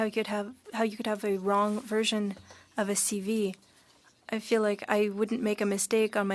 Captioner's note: speaking French